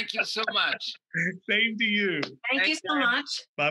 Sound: laughing

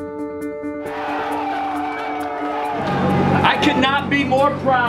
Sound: upbeat music; cheering

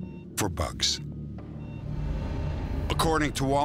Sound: beeping

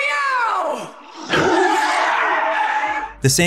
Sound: growling

